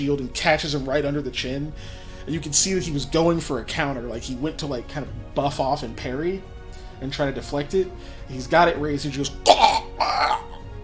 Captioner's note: choking sound